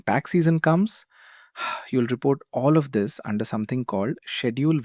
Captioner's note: sighs